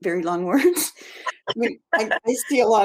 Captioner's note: laughs